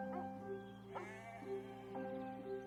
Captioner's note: dog barking; sheep bleating